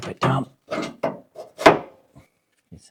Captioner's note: clunking